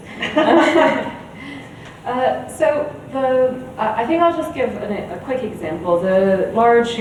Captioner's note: chuckles